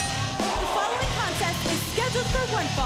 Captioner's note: bell ringing